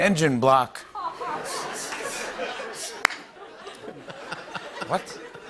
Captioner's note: laughter